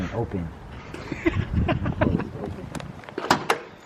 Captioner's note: chuckles